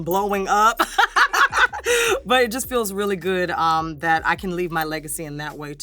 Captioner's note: laughs